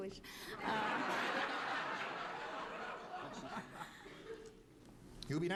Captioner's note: laughter